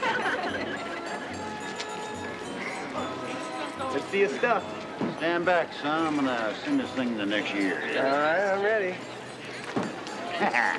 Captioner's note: thump